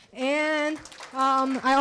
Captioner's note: applause